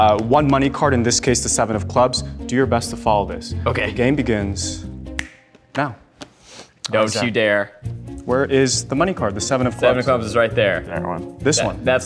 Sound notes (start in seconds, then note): 5.2 snap